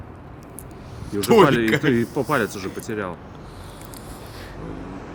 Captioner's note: laughing